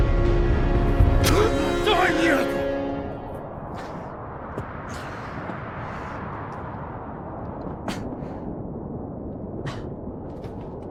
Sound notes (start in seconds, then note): 4.8 demure gasping; 6.5 wind roaring